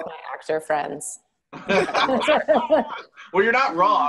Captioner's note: laughing